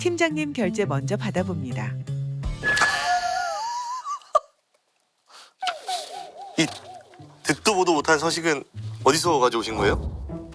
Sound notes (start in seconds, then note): 2.7 the state of the document only draws awkward laughter